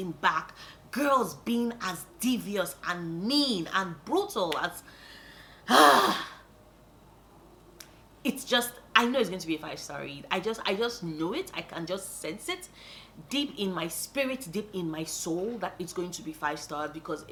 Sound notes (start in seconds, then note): 5.6 happy sigh